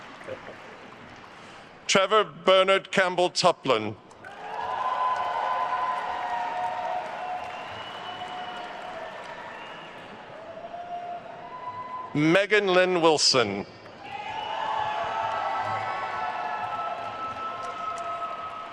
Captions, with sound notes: Trevor Bernard Campbell Tuplin. (attendees cheering and applauding) Meghan Lynn Wilson. (attendees cheering and applauding)